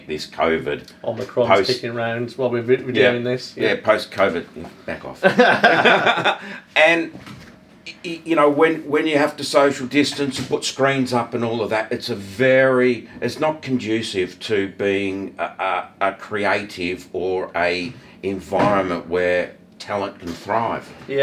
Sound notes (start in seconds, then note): 5.2 both laughing